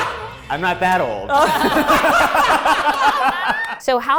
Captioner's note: everyone laughs